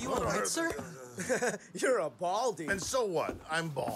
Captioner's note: elcano chuckles